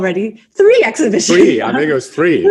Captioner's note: laughs